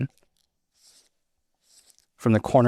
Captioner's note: pen scratching